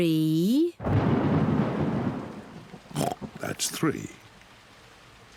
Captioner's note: thunder rumbles; oinks